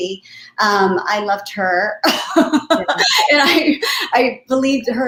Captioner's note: laughter